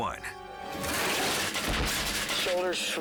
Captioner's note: crashing